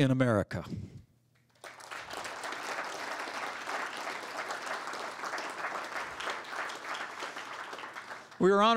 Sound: applause

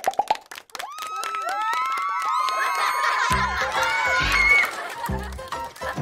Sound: applause and laughter

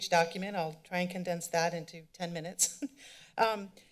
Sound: laughs

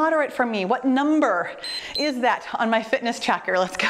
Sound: timer beeps

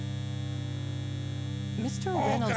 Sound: electricity buzzing

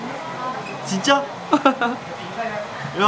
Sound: laughs

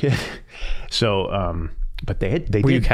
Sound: chuckling

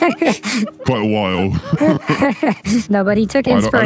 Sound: laughs

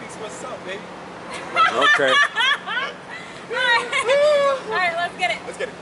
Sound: laughing

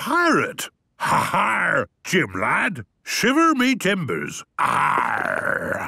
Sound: menacing voice; he growls

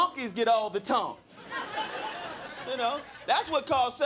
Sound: crowd laughing

